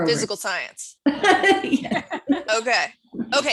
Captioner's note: laughs